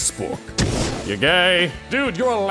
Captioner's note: fwoosh